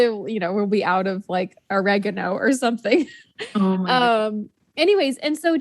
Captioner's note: laughs